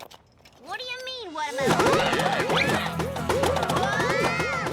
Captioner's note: both yell